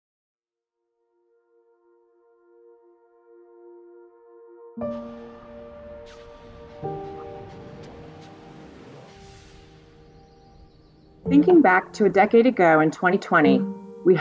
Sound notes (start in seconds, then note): 0.2 gentle music; 9.5 birds chirping; 10.3 gentle music